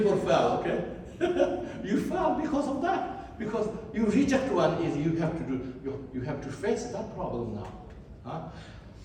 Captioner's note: laugh